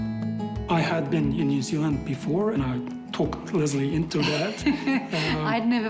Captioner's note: chuckles